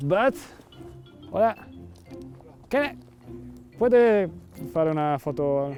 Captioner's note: speaks foreign language